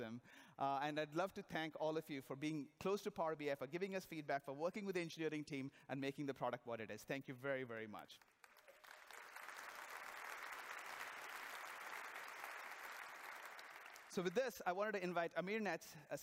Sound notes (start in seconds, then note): 11.2 applause